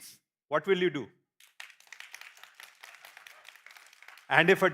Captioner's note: applause